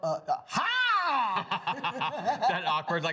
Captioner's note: laugh